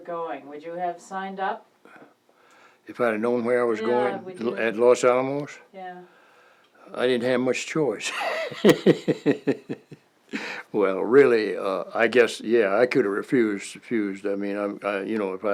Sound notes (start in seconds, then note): 8.0 laughter